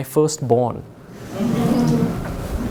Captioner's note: audience chuckles